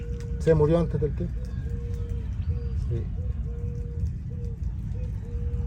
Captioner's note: speaking in foreign language